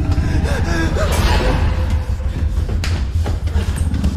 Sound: gasping

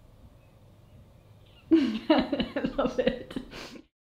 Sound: laughs

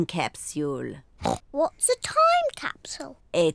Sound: oinks

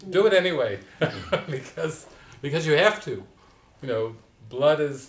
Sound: laughter

